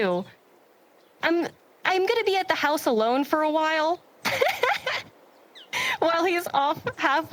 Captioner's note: giggles